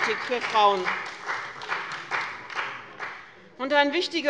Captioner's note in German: Beifall bei dem BÜNDNIS 90/DIE GRÜNEN und der CDU